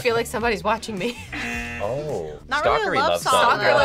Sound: audio buzzes

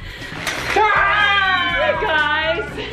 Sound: exclaiming

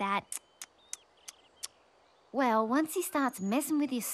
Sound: tisking

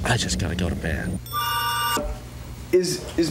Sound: phone rings

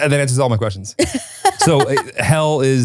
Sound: laughs

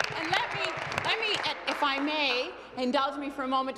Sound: applause

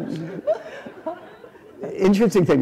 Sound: laughter

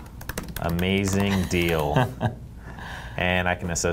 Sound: laughs

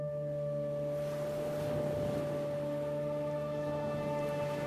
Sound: ocean waves splashing

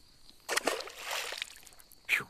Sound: splash

